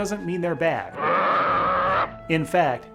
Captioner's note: monster growls